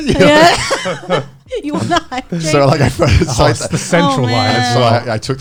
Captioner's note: laughs